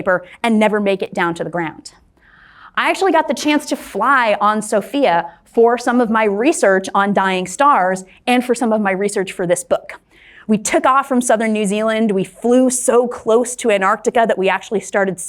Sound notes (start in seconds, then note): none